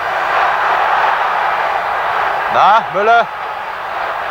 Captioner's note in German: jubel